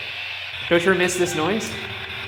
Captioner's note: spirit box static